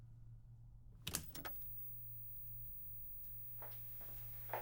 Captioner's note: button clicks